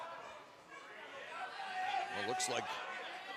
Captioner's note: cheers and applause